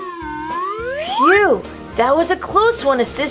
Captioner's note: none